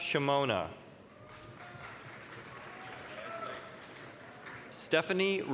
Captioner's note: applause, cheering